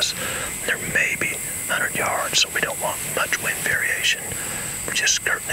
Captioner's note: whispering